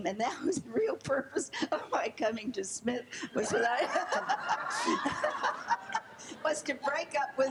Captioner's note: laughing